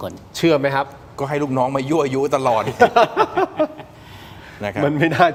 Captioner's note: laughs